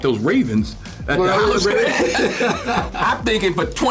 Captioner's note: laughs